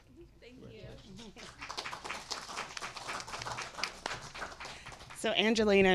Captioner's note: audience applauding